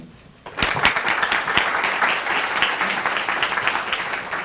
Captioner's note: applause